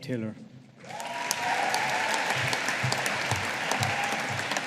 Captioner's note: audience applauding